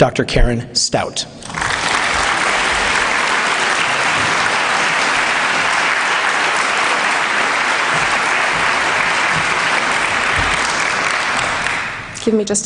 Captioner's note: applause